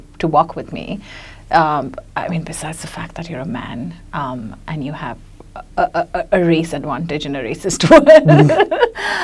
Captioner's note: laughs